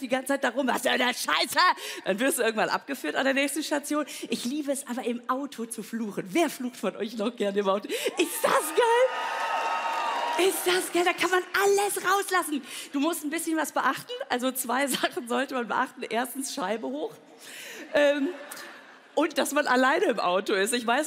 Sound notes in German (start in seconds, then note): 18.4 Lachen